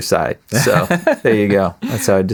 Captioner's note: laughing